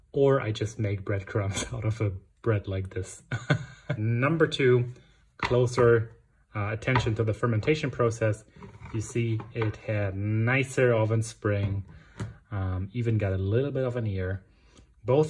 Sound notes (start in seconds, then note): 3.3 laughs